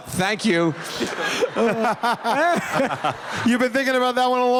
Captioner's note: laughter